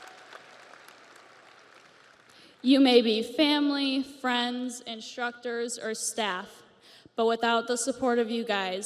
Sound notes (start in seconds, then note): 0.0 audience cheers; 0.0 audience applauds